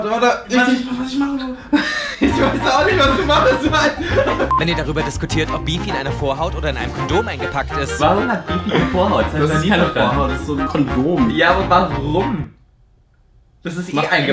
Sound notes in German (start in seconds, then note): 3.0 lacht